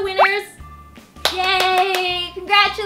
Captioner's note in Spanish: aplausos